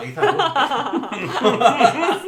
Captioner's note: laughs